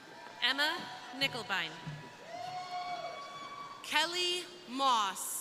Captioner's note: crowd cheering